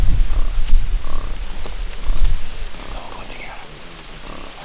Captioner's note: wild pigs grumbling